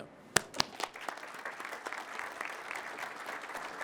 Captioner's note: crowd claps